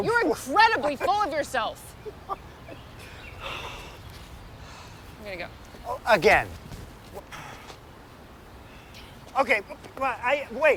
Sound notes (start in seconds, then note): 0.8 Chris laughs; 7.3 Chris sighs